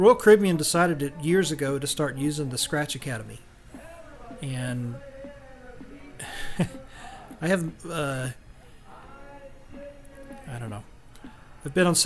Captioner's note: laughs